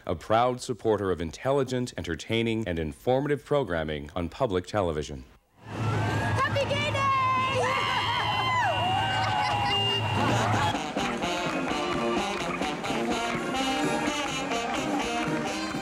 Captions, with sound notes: a proud supporter of intelligent, entertaining, and informative programming on public television. Happy Gay Day! [people cheer] [marching band music]